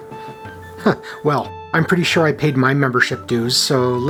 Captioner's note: chuckle